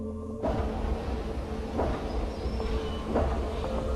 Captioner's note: machinery rattling